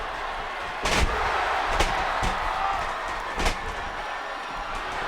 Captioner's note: audience cheers